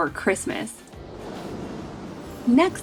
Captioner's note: wind whooshing